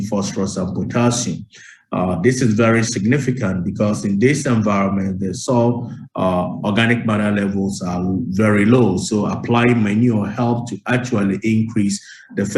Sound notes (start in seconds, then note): none